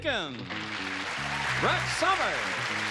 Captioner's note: applause